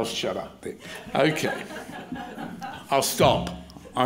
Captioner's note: crowd laughs